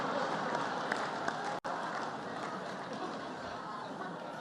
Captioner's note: laughter